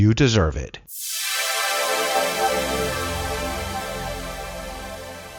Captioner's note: electronic whooshing